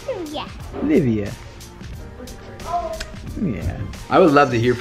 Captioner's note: kisses